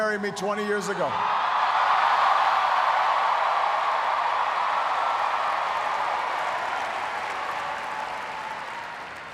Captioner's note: cheers, applause